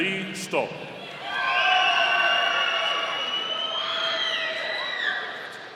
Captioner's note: audience cheering